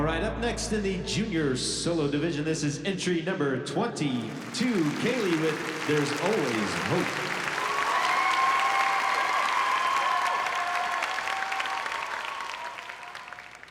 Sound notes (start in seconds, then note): 7.5 cheering and applause